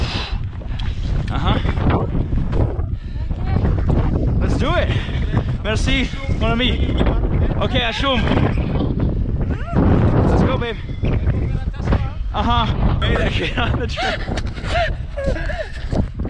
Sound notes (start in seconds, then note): 0.2 exhales sharply; 5.5 speaking foreign language; 7.8 speaks foreign language; 11.5 man speaks foreign language; 14.6 laughing